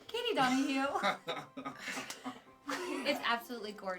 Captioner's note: laughing